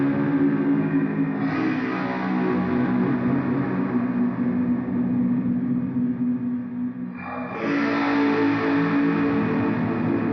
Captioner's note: a LOT of Reverb in the signal chain is creating this soft distortion sound